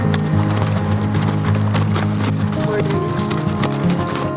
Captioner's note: horses clopping